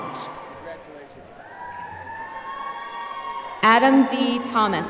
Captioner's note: applause